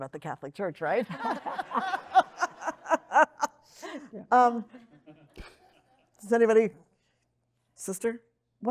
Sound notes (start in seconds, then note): 1.1 audience laughing